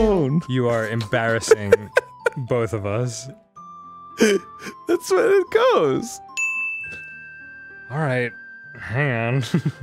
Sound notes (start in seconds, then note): 1.2 giggling; 4.2 gasping; 8.0 sighing